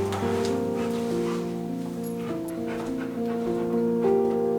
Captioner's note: dog panting